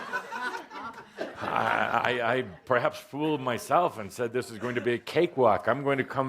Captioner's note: laughter